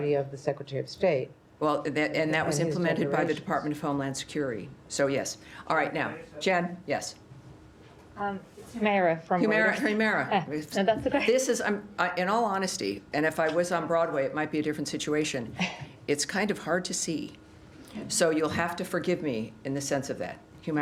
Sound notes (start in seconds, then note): 11.5 laughter